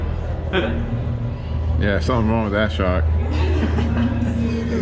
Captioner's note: laughing; laughing